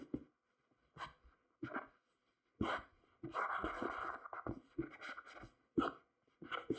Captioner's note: pat pat